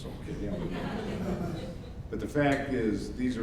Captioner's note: audience laughs